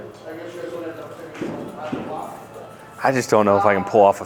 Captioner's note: customers talking